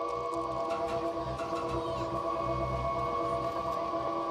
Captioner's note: people chattering